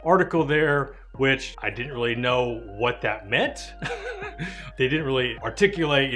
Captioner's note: laughs